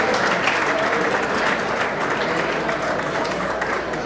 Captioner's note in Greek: το κοινό χειροκροτεί